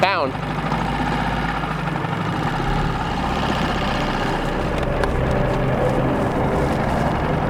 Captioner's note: boat engine droning; suspenseful music